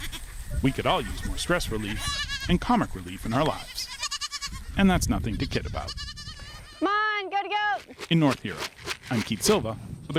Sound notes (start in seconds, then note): 0.0 goat bleats; 3.3 goat bleats